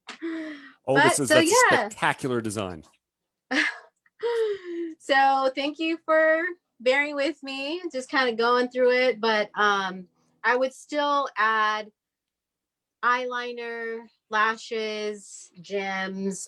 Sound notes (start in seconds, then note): 3.2 chuckles